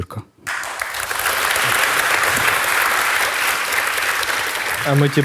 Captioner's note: the audience cheers